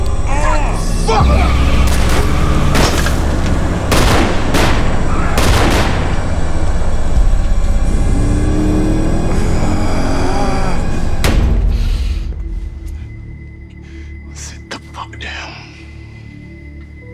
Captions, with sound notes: (man groaning) - Fuck! (gun firing) (tense music continues) (engine revving) (hand thuds) (tense music) - Sit the fuck down.